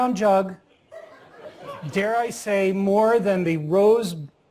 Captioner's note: laugh